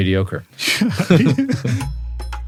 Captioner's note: laugh